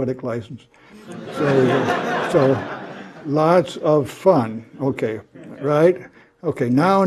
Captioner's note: laugh